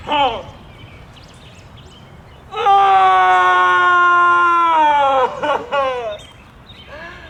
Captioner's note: screaming